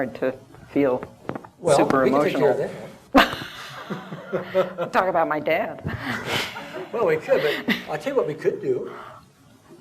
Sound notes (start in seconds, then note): 3.1 laughter; 7.3 laughter